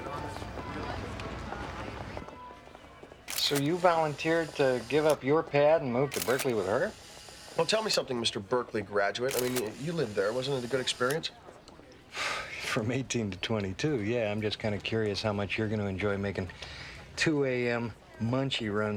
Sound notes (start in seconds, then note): 3.2 camera shutter clicking